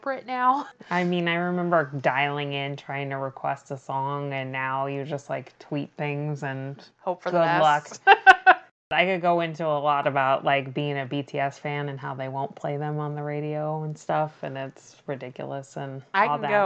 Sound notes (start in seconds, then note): 7.4 laughs